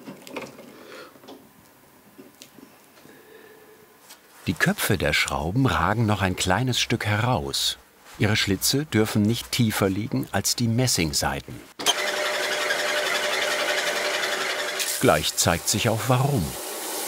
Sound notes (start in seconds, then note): 11.8 rattling whirring